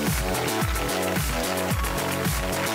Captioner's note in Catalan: aplaudiments